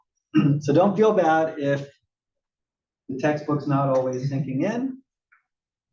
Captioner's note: cough